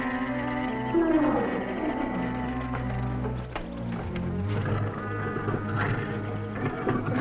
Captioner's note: animals groaning; jaguar growling